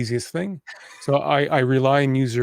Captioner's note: laughing